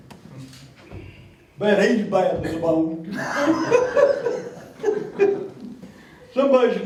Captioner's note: laughs